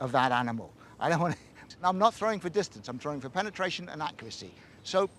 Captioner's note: chortles